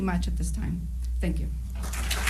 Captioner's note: applause